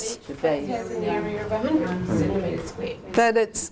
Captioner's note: audience chatter